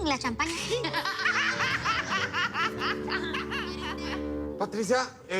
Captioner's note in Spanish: Risas